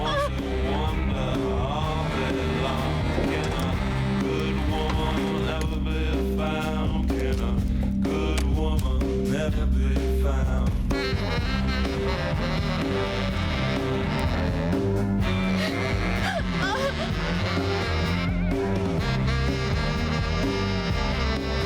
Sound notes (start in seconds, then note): 16.2 panting